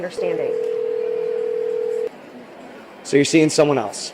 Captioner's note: phone ringing